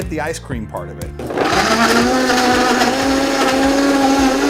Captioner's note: blender whirs